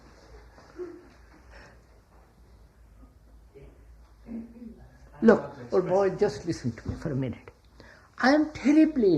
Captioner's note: laughs